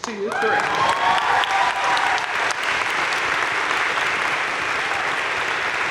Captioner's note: audience cheering and applauding